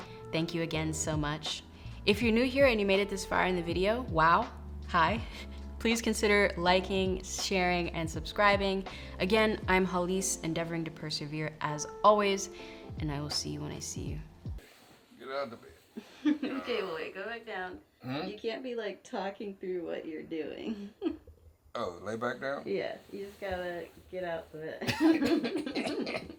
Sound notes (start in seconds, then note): 16.0 laughs